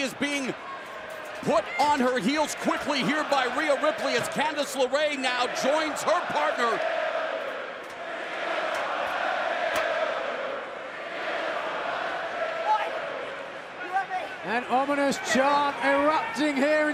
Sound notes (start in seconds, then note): 9.0 crowd cheering